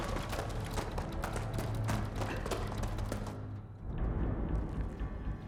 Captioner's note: footsteps tapping; suspenseful music